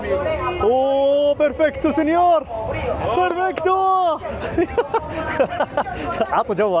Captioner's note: laughs